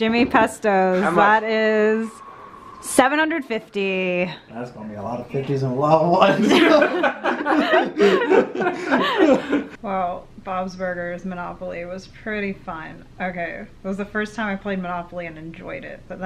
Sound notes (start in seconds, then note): 6.2 all laugh